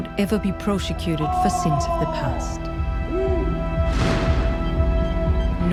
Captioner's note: yelling of orders